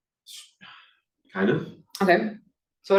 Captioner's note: sighs